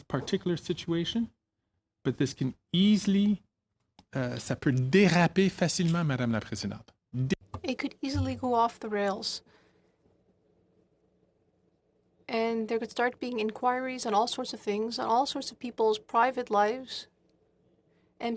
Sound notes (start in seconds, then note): 9.0 speaking French